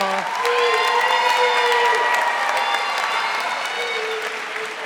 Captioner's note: audience cheering